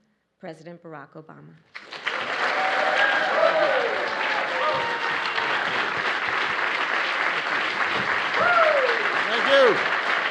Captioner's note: applause